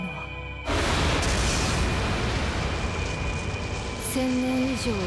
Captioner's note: Sound of Frieren’s aura